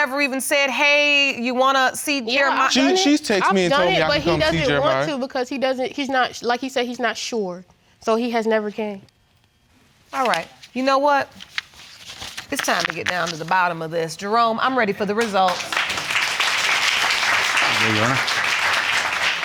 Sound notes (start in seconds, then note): 15.3 audience applauding